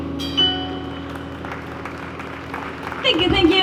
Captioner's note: applause